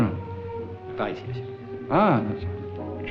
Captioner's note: French spoken audio